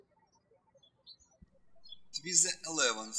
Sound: birds chirping

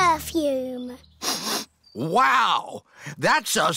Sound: sniffs

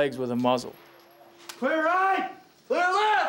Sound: voiceover

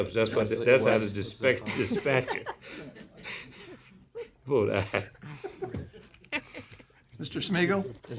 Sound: laughter

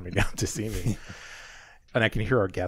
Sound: laughs

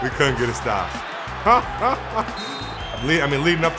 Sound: laughing

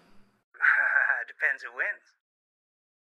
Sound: laughs

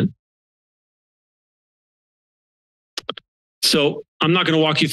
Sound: silence

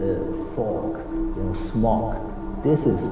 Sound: chants, repeating

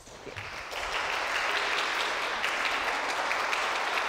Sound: audience applauds

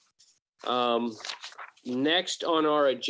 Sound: papers shuffling

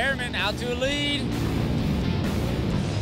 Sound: engines revving

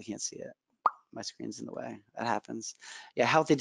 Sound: pops

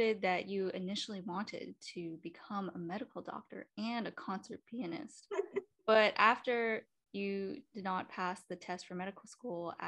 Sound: laughs

